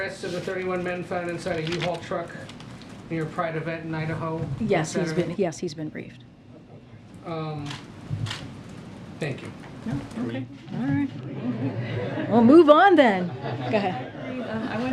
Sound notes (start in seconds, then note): 11.2 laughter; 11.2 laughs